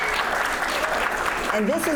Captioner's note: applause